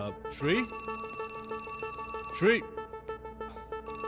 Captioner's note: Phone rings